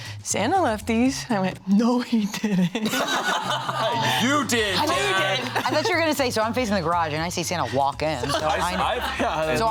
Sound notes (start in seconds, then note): 2.4 all laughing